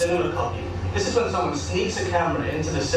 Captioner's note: distorted audio quality